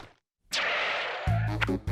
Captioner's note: shoes screech